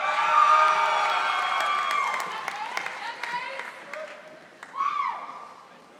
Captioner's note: audience applauding and cheering